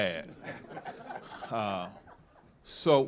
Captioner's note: participants laughing